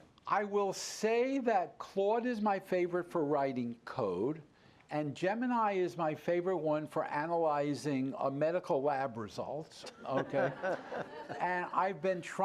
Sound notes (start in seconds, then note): 9.8 laughter